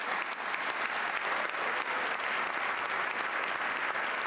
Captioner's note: applause